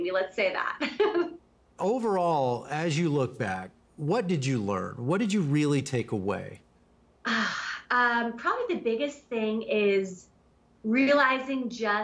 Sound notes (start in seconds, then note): 1.8 laughs; 5.4 sighs